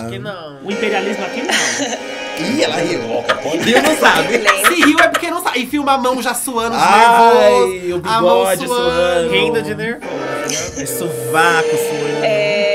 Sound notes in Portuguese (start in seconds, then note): 3.2 riso